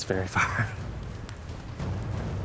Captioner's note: laughs